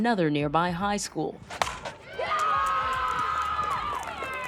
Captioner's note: crowd cheering